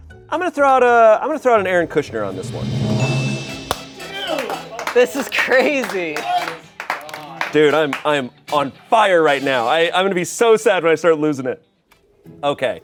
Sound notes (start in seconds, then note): 1.6 drum rolls hisses; 2.1 bell chimes